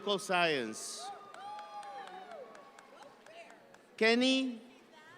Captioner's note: audience member cheering